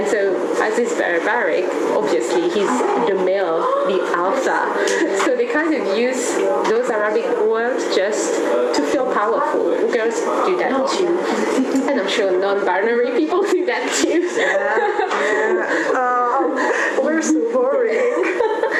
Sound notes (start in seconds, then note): 14.0 laugh; 17.6 is still laughing